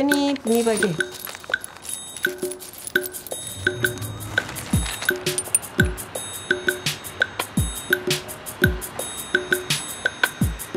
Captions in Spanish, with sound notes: pero sin saber mucho por qué ni pa' qué. (Música funk con percusión suave) (Ruido de ciudad)